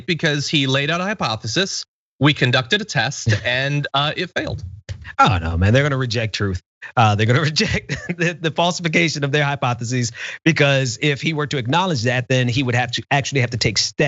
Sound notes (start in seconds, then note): 6.8 laugh